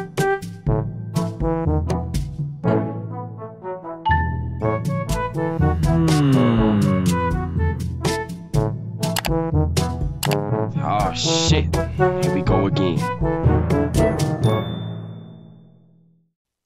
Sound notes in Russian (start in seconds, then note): 2.5 Новое уведомление; 10.2 клик